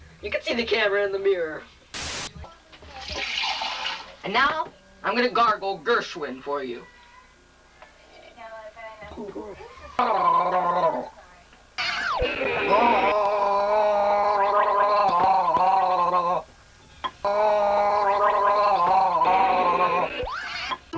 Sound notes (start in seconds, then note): 1.7 static hissing; 3.0 water pouring; 9.3 gurgling